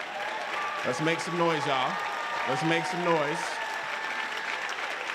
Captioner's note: applause